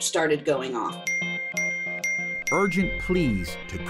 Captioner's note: electronic dinging